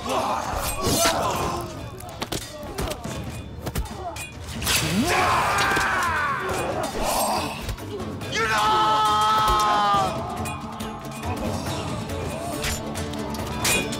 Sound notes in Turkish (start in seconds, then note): 0.3 Gerilim müziği; 4.6 Bamsı haykırıyor